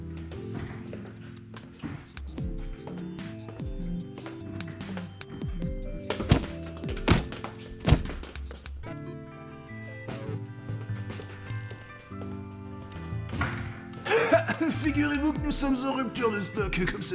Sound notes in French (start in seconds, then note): 6.1 Bong